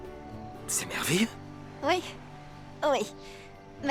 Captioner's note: laughing